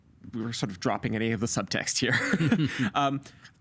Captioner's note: laughing